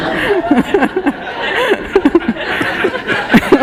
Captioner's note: laughter